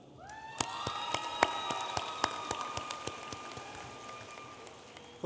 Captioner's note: audience applauding